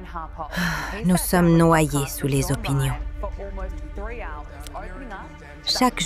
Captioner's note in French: soupir